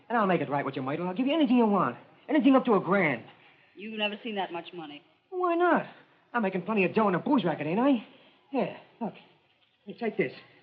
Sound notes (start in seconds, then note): none